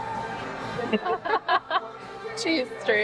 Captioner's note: laughter